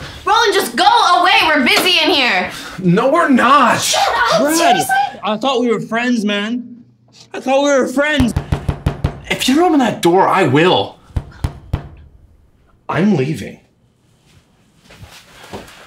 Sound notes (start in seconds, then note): 8.2 Roland keeps pounding on the door